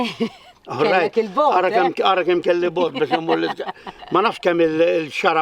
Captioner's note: laughing